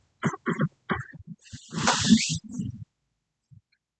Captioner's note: coughs; clears throat